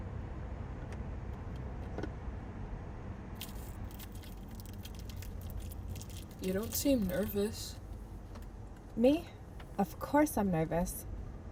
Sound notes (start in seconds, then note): 3.4 wrapper crinkling